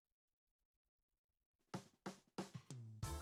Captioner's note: none